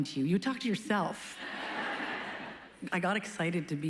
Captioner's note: laughs